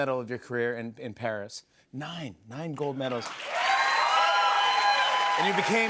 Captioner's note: cheers and applause